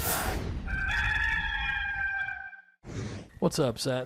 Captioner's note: rooster cawing